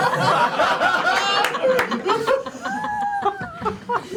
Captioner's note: laughter